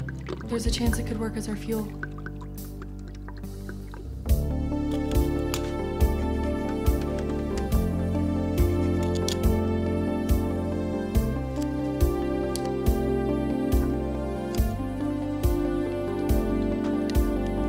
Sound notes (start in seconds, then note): 4.9 wire snaps